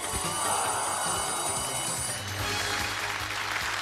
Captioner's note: bell rings; audience groans